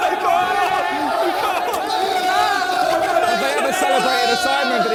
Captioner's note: men cheering